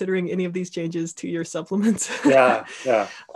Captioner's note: laughing